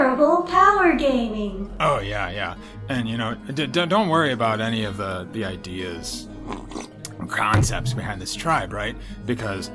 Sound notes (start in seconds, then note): 6.4 slurps